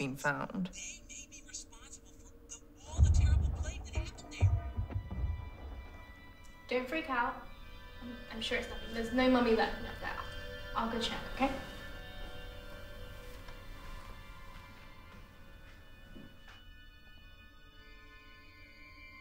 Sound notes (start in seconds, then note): 2.8 loud banging; 5.0 suspenseful music; 12.3 suspenseful music